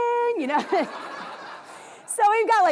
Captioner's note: audience laughs